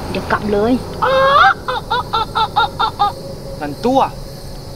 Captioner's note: Laughing